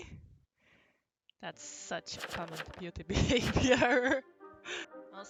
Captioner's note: laughs mid sentence so inaudible